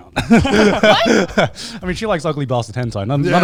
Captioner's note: laughs